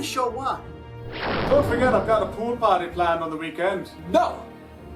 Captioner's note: booming SFX